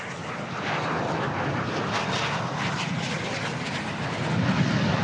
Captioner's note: jets roaring